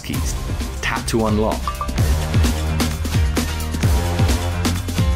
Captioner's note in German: Gerät piept